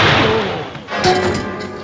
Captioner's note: gunshot; groans